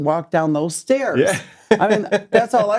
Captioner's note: laughs